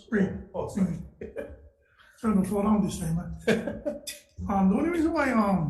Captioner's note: Testifier chuckles